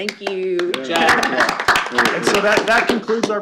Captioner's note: applause